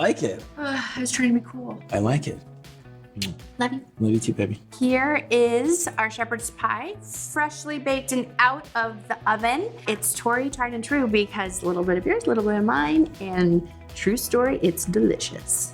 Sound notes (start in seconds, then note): 3.1 lips smack